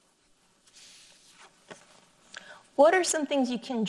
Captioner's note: paper rustles